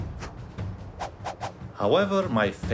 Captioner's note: whooshing